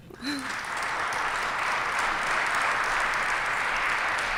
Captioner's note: applause